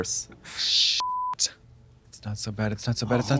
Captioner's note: beep